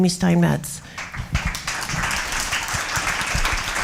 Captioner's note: applause